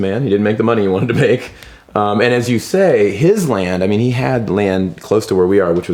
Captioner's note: laughs